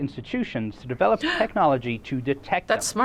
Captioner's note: gasps